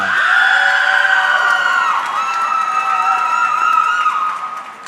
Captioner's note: audience cheering